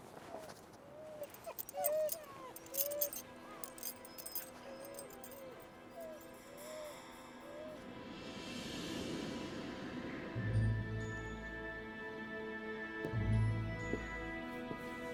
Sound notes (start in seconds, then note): 1.0 dogs whining; 9.2 dramatic music